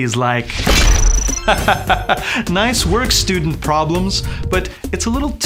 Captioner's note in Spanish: Risas